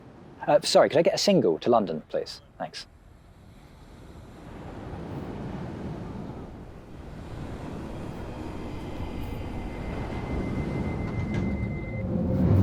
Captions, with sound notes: Uh, sorry, could I get a single to London please thanks [Train]